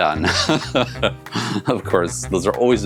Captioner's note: laughs